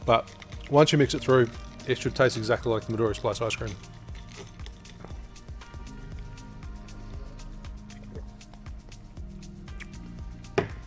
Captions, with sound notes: But, once you mix it through, it should taste exactly like the Midori Splice ice cream. (ice clinking)